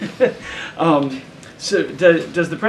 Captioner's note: laughs